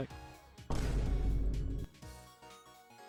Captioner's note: boom